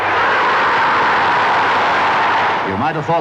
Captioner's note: crowd roaring